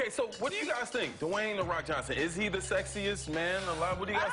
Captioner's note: cheers and applause